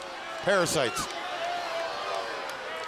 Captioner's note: crowd cheering